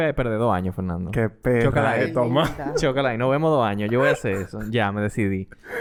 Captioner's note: laughs